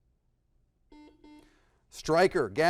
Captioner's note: buzzer blaring